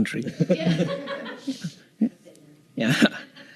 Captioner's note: laughter